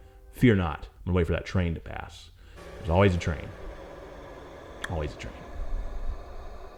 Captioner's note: train choo choos